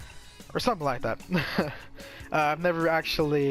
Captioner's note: nervous chuckling